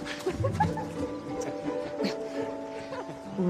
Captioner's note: giggling